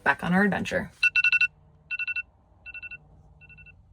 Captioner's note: alarm